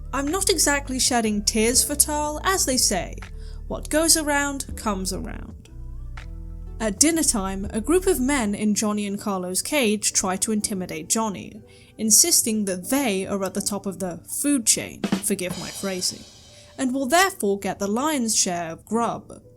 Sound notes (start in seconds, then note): none